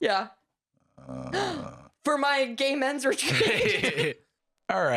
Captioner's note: gasps